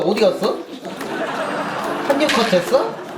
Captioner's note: laugh